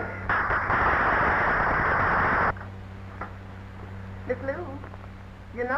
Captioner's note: audience applauding